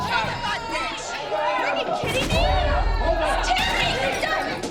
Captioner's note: angry chatter